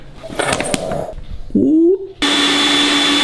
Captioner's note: blender slides; blender blasts